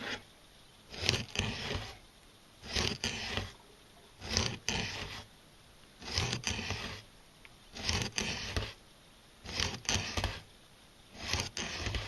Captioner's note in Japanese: 骨が切れる音